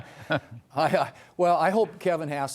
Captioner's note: laughter